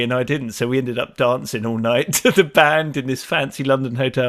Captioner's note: chuckles